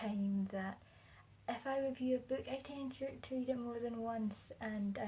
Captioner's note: uses condescending voice